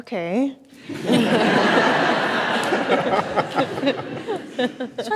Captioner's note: audience laughs